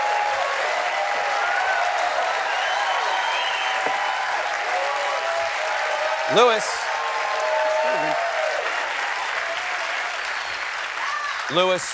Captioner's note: applause